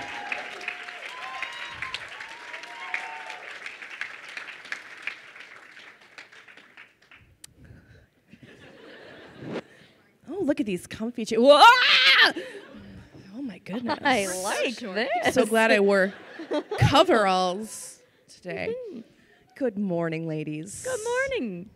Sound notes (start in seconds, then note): 0.0 crowd cheering and applauding; 8.3 crowd laughs; 11.6 screams